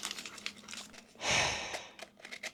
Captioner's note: regret sigh